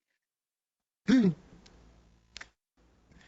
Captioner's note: clears throat